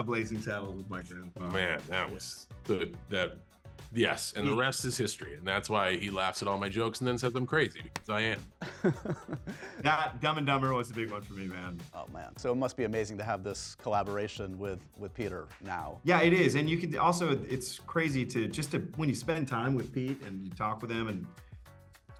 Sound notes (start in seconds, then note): 8.6 chuckles